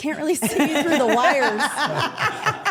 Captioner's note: everyone laughs